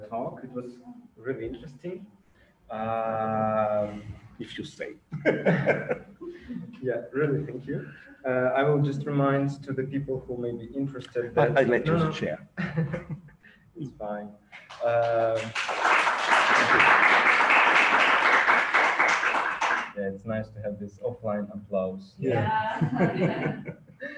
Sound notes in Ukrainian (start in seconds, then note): 18.0 аплодисменти